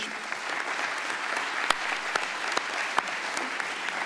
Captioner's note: applause